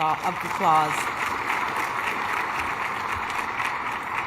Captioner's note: applause